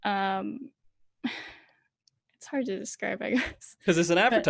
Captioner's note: sighs